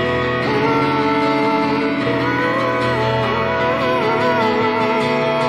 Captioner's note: more crying